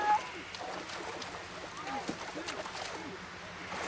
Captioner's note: water splashing